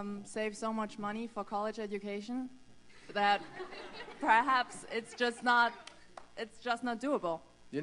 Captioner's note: laughter